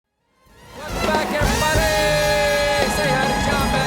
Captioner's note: applause